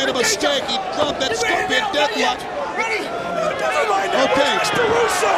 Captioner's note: commentators chattering